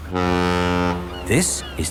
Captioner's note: laughing; ferry horn blows